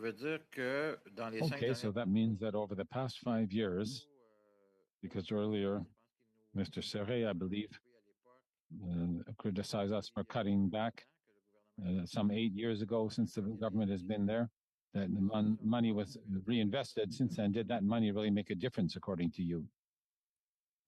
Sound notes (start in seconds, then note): 4.4 speaking French